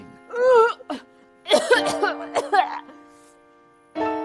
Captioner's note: Emma gagging